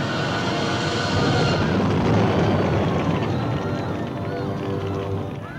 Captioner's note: gunpowder exploding